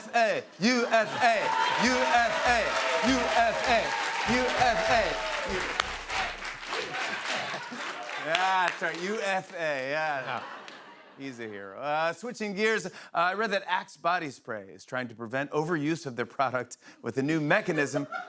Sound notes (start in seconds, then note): 0.6 chanting